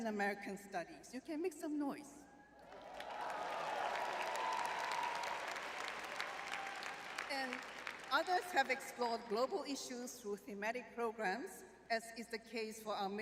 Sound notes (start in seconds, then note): 2.6 audience cheering